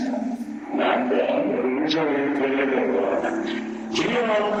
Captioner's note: speaking in Japanese; laughter